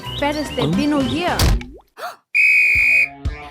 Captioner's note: meat thudding; kid gasping; whistle blaring